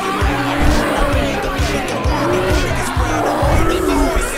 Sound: zombies screaming

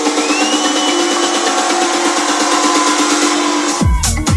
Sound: crowd cheers

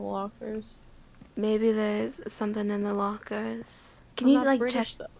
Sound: impersonating

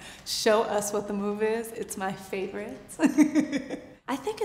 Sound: laughing

